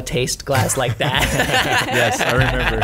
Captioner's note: laughs